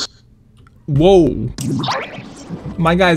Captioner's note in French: Bruits d'aliens